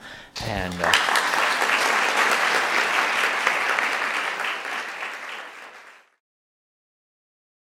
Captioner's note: applause